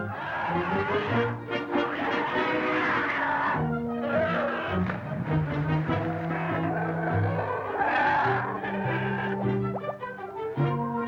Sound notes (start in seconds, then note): 0.1 growling; 4.7 splashing; 6.3 growling